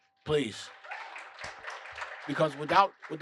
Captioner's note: applause